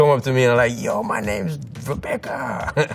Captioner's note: laughs